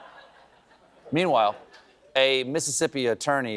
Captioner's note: laughter